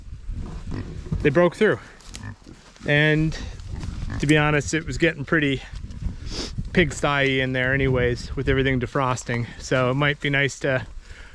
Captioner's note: footsteps